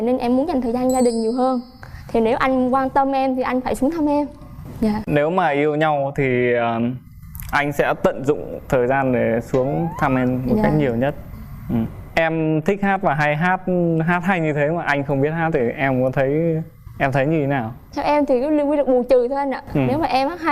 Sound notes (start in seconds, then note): none